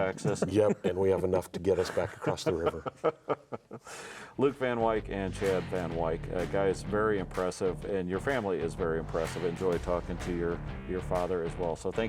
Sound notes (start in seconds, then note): 1.7 laughs